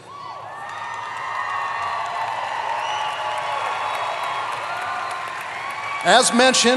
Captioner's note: applause